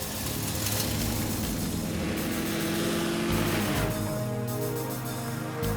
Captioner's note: car engines revving; suspenseful music